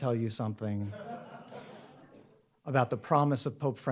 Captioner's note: audience laughs